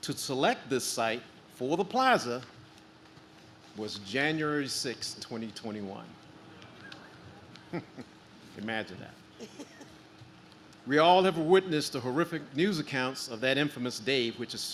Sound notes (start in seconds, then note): 7.6 chuckles